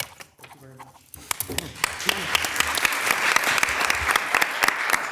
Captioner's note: people applauding